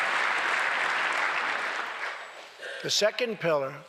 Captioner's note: applause